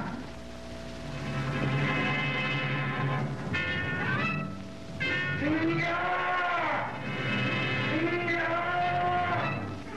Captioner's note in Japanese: ターザンの叫び